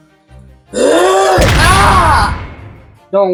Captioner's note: screams painfully